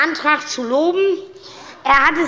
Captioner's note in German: Zuruf